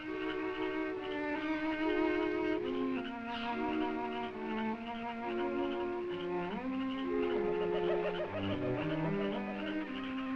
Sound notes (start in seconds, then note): 0.2 soft listening music; 7.3 birds cawing